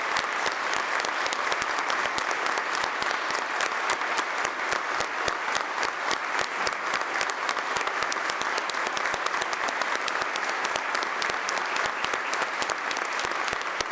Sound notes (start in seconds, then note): 0.1 applause